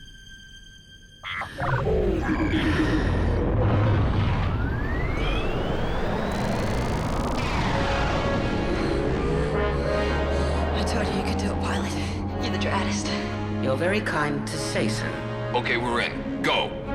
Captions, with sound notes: [console beeping] [console buzzing] I told you you could do it, Pilot. You're the draddest. You're very kind to say so. Okay, we're in. Go!